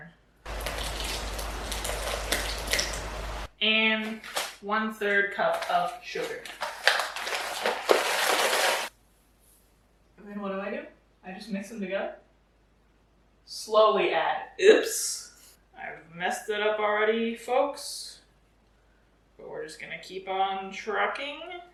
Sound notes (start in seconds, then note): 0.4 hot chocolate mix sloshing into mixing bowl; 7.5 bag crinkling